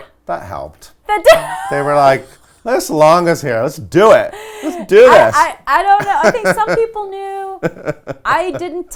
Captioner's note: laughs